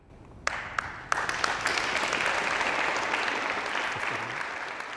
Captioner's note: audience applauding